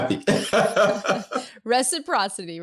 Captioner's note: both laughing